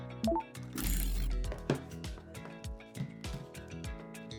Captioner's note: soft electronic chimes